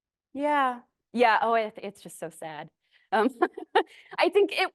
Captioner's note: laughs